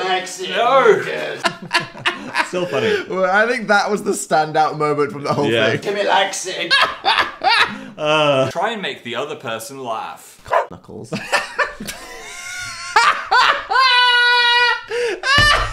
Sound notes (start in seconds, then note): 1.4 laughing; 6.7 laughing; 10.4 dog barks; 11.1 laughing